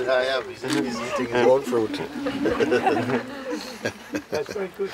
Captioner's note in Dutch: gelach